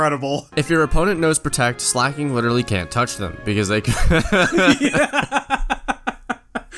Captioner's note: both laugh